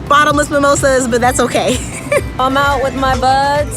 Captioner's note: chuckles